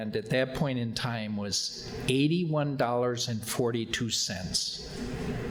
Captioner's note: none